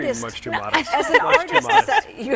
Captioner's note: laughing